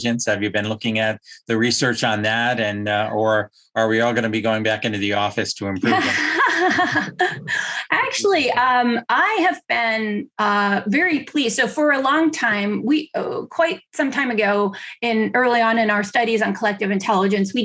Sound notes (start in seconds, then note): 5.6 laughing